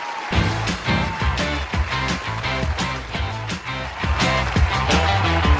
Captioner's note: audience applause; upbeat music